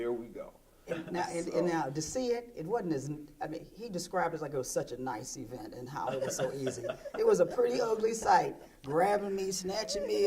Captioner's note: laughter